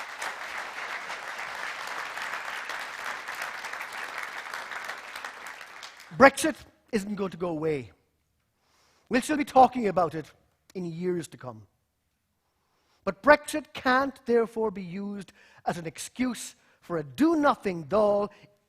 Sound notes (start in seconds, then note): 6.1 applause